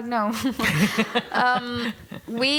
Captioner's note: laughter